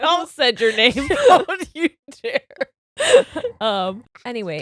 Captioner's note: both laughing